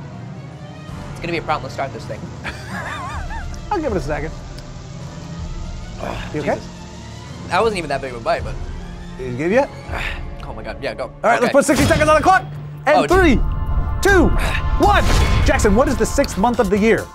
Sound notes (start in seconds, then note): 2.4 laughs